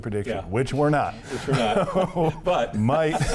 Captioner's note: laughs